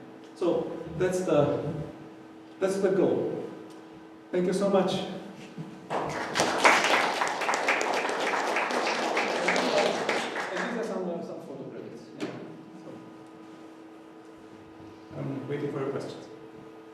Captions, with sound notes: so that's the goal. Thank you so much, [audience appluse] I'm waiting for a question.